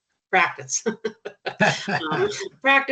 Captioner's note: chuckling